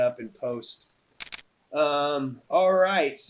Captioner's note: cards shuffling